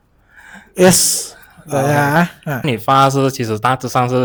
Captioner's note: in Mandarin